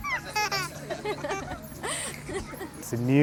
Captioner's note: giggles